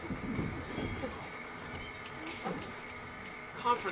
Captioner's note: chimes